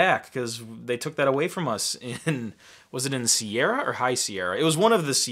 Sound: laughing

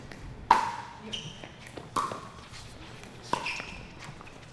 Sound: ball bouncing

